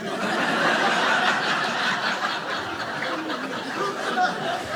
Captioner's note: audience laughing